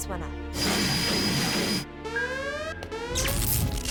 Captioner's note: exploding